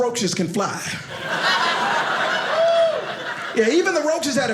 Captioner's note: audience laughing